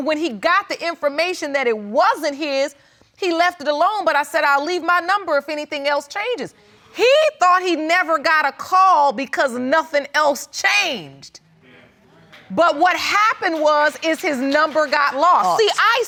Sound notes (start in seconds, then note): 11.5 audience mumbling; 13.0 audience applauding